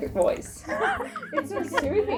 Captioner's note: laughing